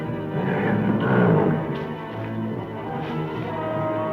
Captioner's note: leopard roaring